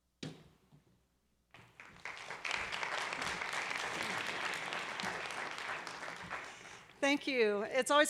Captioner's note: applause